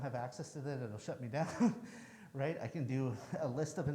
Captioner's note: chuckles